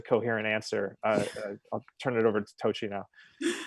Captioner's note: chuckles